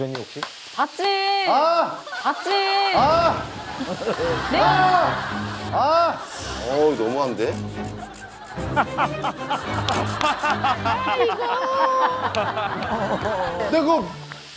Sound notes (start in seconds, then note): 3.7 screaming